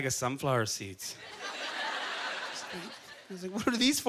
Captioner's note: audience chuckling